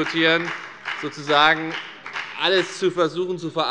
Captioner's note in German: Beifall bei der FDP